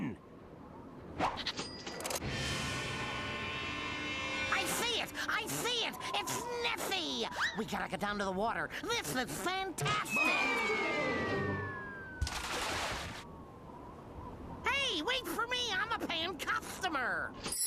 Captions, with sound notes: I SEE IT! I SEE IT! IT'S NESSIE! WE GOT TO GO DOWN TO THE WATER! THIS IS FANTASTIC! [water splashing] [wind whistling] HEY, WAIT FOR ME! I'M A PAYING CUSTOMER.